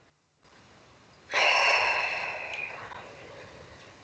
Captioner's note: leah exhales loudly